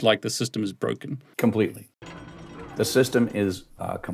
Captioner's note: gears chiming